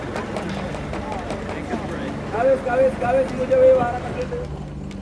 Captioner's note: speaking foreign language